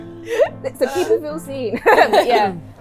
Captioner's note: laughs